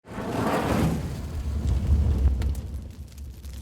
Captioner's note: fire burning